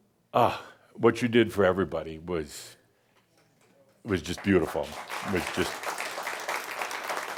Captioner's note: audience applause